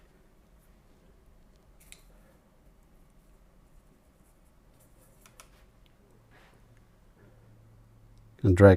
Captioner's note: silence